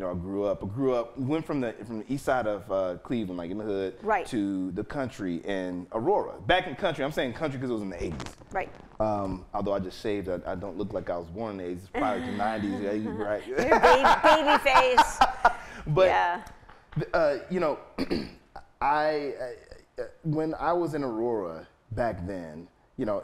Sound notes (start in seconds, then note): 14.5 laughing